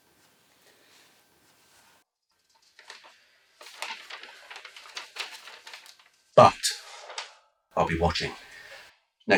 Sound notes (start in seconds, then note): 2.3 turns page